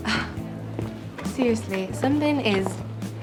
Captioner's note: chuckles